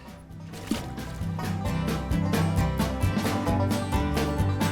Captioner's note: splashing